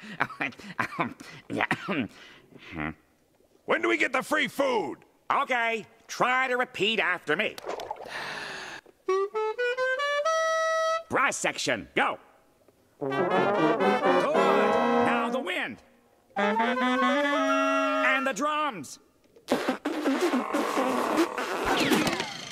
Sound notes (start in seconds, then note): 0.7 laughter subsiding, coughing; 8.0 inhaling; 19.0 sputtering